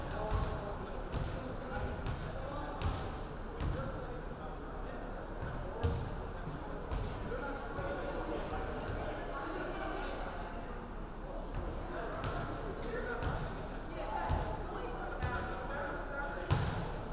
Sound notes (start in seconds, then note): none